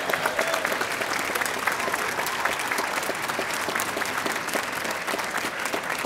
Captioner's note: audience applauding